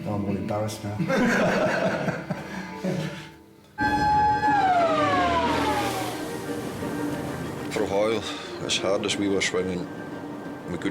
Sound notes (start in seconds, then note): 0.0 gentle music; 1.1 everybody laughs; 3.8 siren wailing; 5.1 waves crashing; 6.3 energetic music